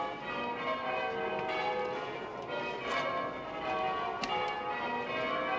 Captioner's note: church bell's ringing